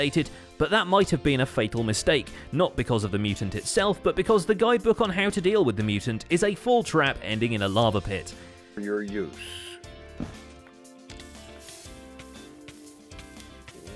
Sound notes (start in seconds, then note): 9.9 blocks break